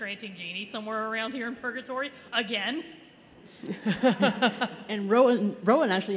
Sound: laughter

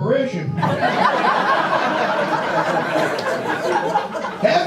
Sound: audience laughs

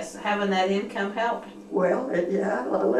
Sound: laughs

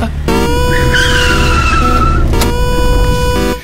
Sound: car brakes

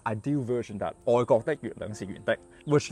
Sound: Cantonese

